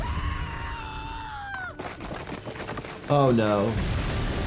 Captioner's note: screaming